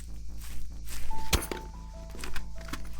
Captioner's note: thud